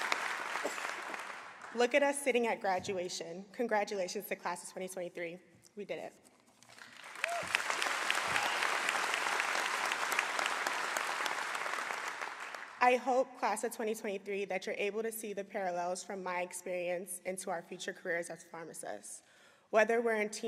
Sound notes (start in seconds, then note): 0.0 applause; 6.6 applause